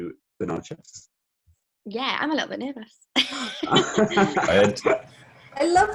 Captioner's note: laughter